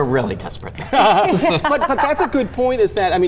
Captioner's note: laughing